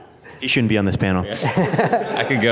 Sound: laughter

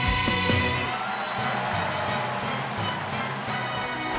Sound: cheering

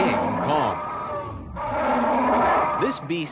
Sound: King Kong Roars

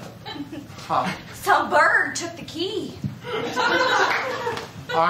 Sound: laughter

